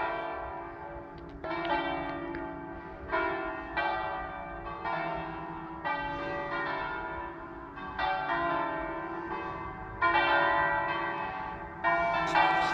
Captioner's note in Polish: Aplauz